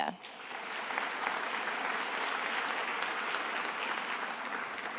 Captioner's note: attendees applauding